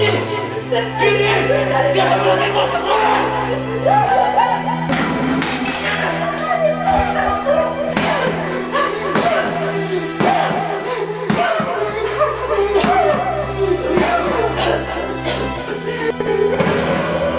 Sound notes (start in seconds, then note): 6.7 shouting; 13.9 she coughs